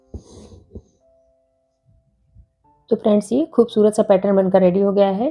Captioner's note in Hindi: नाक से की जाने वाली आवाज़